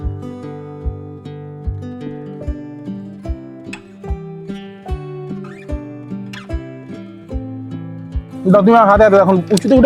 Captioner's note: sound of pipes being fitted